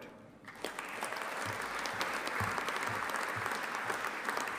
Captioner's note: audience applauding